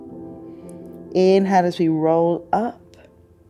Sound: inhales

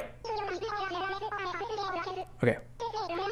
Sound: "my guy" responds in Animalese

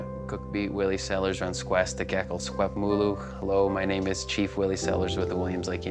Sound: speaking Indigenous language

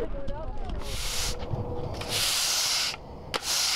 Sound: sweeping

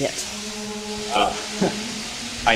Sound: laughs

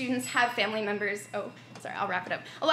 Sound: bell ringing

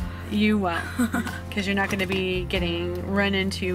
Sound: laughs

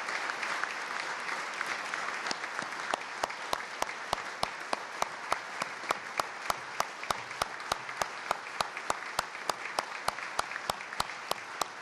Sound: applause

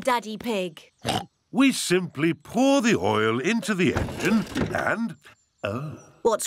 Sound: oinks

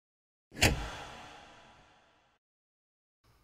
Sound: slamming

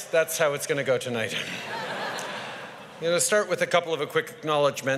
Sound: laughter

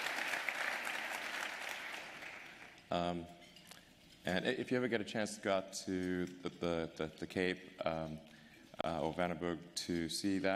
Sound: applause

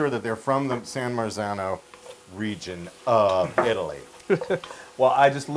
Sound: laugh

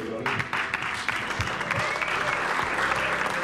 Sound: all applauding and cheering

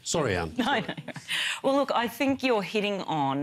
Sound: chuckles

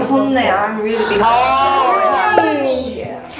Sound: all exclaim in agreement

